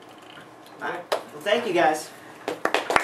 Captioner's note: applause